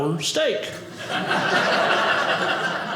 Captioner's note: audience laughing